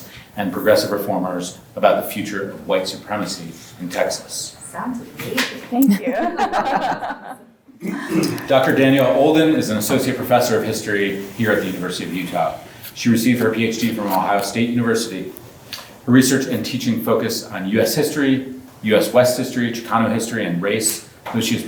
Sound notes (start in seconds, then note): 5.8 group chuckles